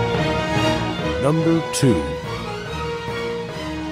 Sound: triumphant orchestral music; voiceover

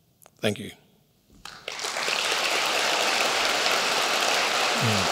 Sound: applause

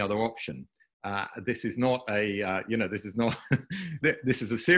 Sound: laughing

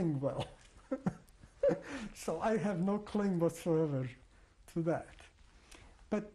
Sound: laughs

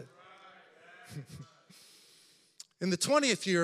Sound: congregation chattering; laughs

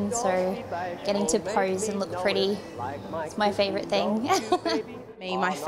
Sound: laughs

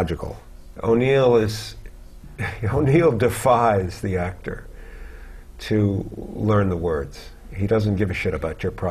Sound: chuckle

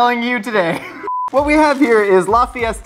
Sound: beep

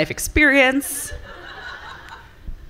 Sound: laughter from the audience

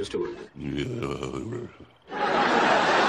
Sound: Sideshow Bob growl

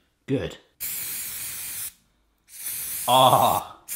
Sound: spraying

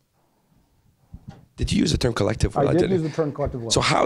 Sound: voiceover

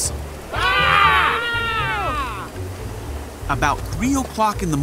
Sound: rain falling; disciples yelling

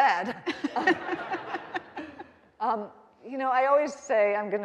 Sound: all laughing

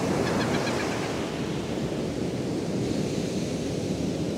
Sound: A bird calling nearby

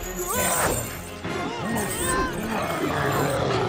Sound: Tyler yells

